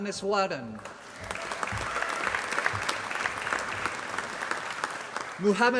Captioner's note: applause